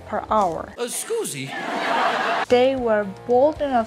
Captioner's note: crowd laughing